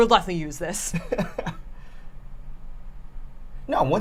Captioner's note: laughs